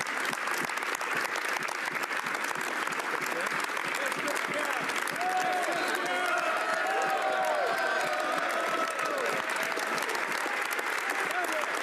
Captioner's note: applause